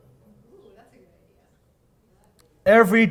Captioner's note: audience mumbling